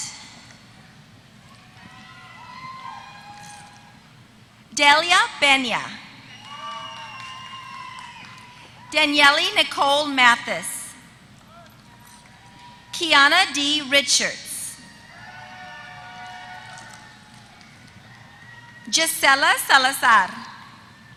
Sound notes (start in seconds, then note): 0.2 applause; 6.3 applause; 15.9 applause